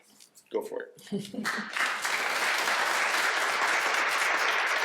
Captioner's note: applause